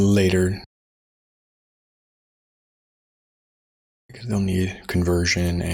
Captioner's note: silence